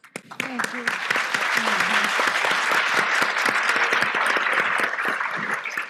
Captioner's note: applause